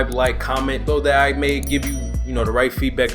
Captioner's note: bell dings